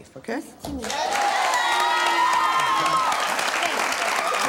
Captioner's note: cheering